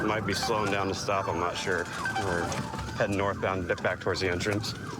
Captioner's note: sirens blaring